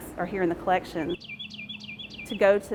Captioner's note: birds chirping